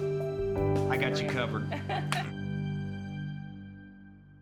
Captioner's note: laughing